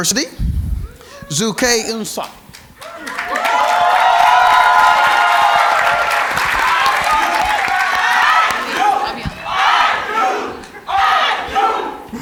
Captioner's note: cheers and Applause